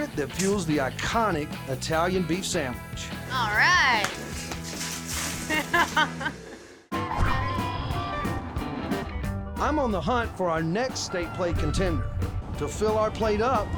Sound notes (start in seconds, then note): 3.3 stones scattering